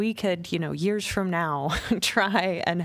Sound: laughter

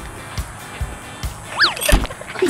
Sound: swoosh; laughing

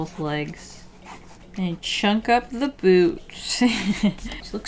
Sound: laughs

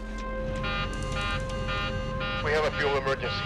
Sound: alarm blaring

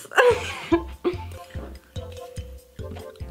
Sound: laughing

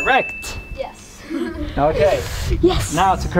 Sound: both kids laugh

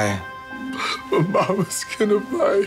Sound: crying

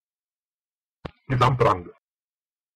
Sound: fast Pronunciation

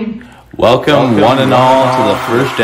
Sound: crowd cheering

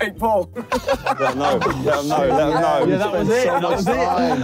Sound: group laughing

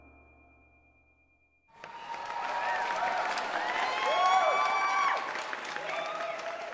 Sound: crowd cheering

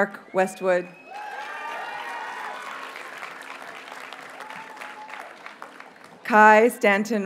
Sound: audience cheers and applauds

